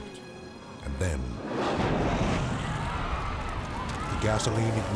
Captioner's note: fire whooshes